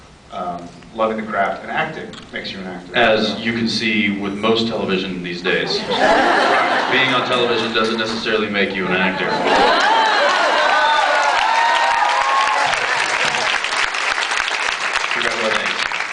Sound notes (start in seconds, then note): 5.7 laughs; 9.5 cheers, applauds; 13.9 applauds